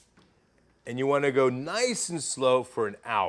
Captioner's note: pilot light clicking